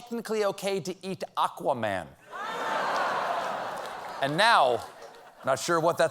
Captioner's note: laughter